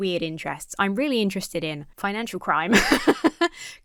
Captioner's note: laughs